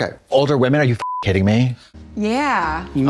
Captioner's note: beep